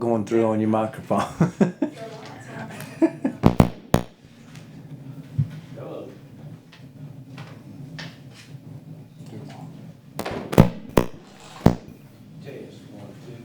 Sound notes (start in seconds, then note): 1.4 laughing; 3.4 microphone pops; 10.2 microphone pops